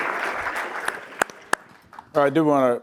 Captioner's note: applause